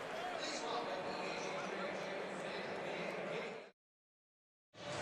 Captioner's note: pa announcement